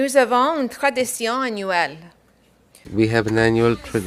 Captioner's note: speaking in French